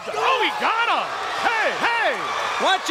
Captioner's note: audience cheers